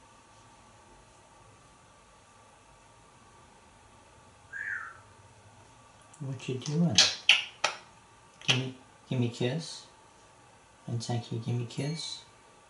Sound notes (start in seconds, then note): 6.6 Einstein makes kissing sounds